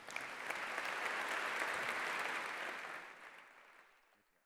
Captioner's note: applause